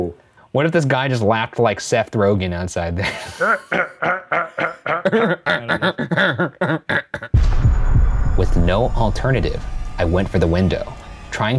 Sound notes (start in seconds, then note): 3.0 men laughing